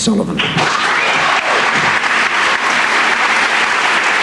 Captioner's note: applause